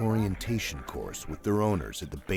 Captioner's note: voiceover